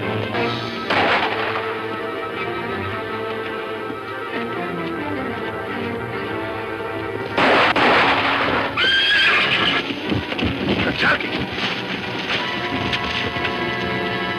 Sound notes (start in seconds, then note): 0.8 gun fires; 7.3 gun firing; 8.6 horse neighs